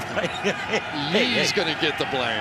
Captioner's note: laughs